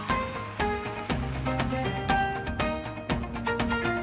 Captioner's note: cheers and applause